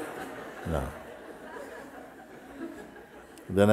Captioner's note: Lachen